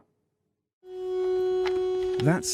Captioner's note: sound blaring